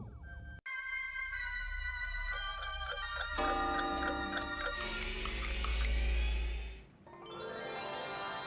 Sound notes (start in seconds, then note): 2.3 clocks chiming